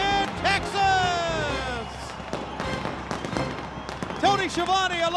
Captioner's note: crowd cheering